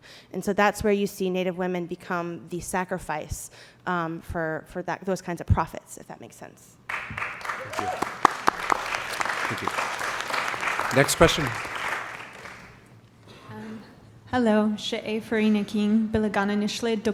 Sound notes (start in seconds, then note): 6.9 applause; 14.9 non-english speech